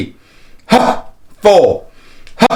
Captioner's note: exhales